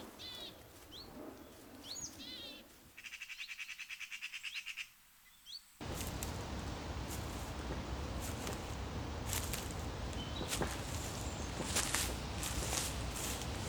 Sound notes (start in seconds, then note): 5.8 leaves crunch; 10.8 birds chirp